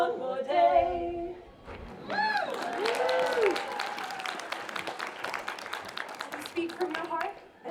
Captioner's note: applause